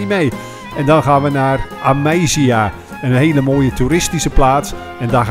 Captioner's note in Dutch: Voiceover